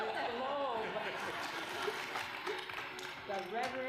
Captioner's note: laughter